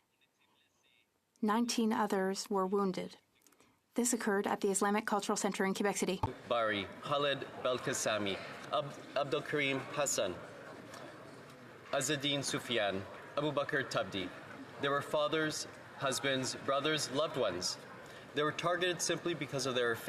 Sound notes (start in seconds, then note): 2.7 speaking French